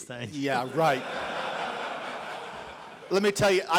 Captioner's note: laughs